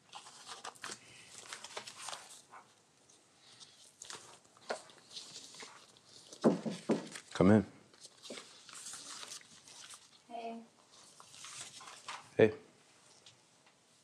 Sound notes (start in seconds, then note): 6.4 door knocking